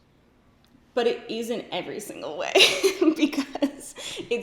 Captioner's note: laughs